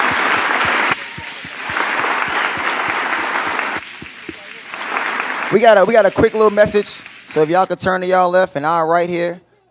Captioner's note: applause